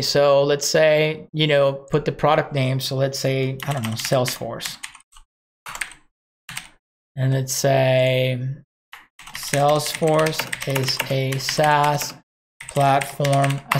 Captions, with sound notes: So let's say, you know, put the product name. So let's say, I don't know Salesforce. (computer keys) And let's say Salesforce is a SAAS platform,